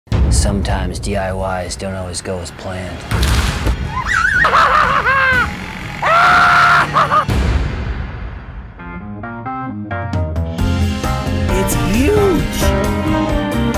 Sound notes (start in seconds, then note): 3.1 intense music; 3.9 boy screams; 4.0 laughing; 8.8 upbeat music